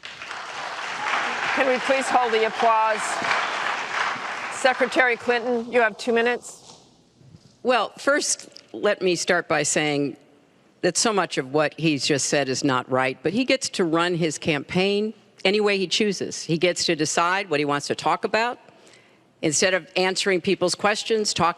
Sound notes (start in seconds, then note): 5.2 applause